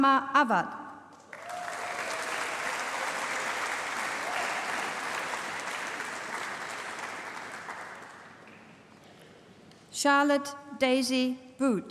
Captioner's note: applause